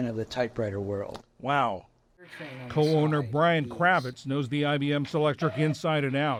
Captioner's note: voice-over